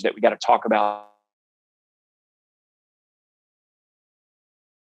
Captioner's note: audio cuts out